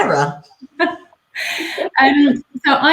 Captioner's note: laughing